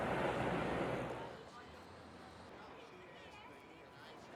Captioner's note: indistinct chatter